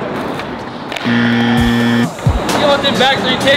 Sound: buzzer

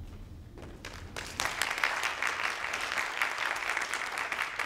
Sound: audience claps

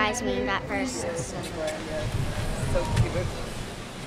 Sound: smack!

